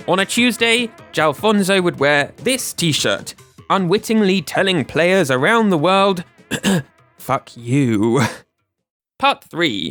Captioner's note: ahem